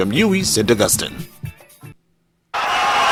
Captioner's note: wild applause and cheering for 22 seconds